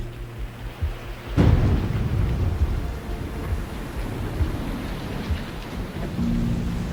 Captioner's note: thunder, rain